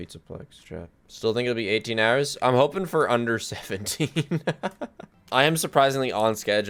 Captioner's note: laughs